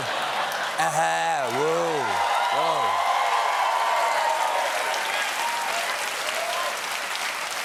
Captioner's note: applause